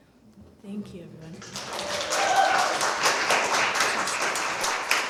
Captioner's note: applause